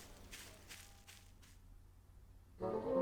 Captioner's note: footsteps on grass fade to silence